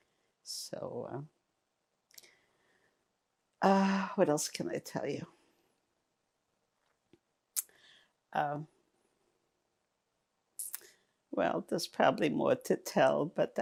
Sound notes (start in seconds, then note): 5.3 pauses 6 seconds